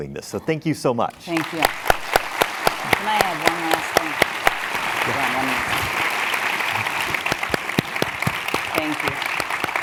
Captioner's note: applause